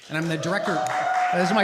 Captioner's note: applause